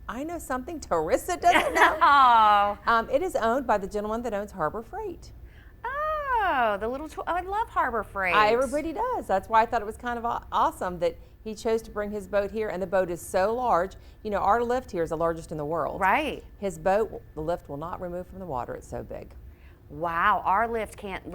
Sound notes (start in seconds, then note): 1.5 laughs